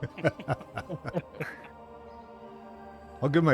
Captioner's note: laughter